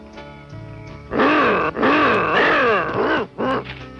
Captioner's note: grunting